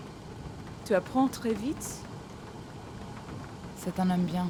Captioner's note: speaking French